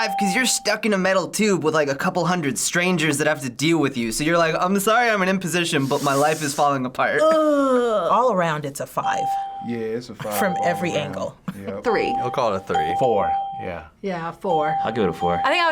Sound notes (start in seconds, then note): 7.1 groans